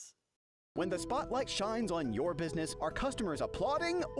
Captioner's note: voiceover